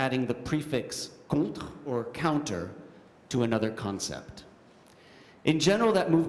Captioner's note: french